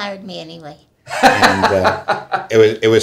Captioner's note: laughter